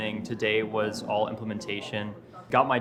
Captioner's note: people chattering